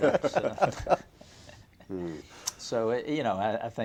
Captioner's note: laughter